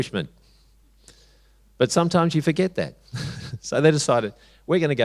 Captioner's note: chuckles